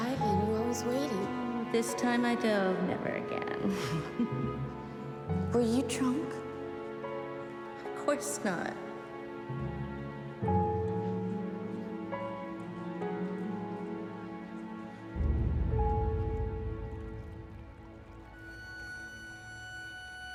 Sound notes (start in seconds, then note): 3.6 laughs